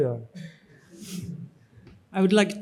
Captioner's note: audience chuckles